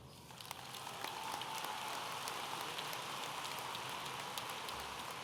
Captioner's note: audience applauding